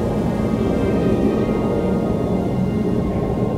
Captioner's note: sound of jet plane